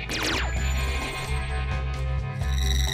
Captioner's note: laser sfx